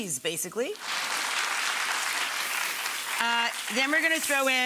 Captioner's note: applause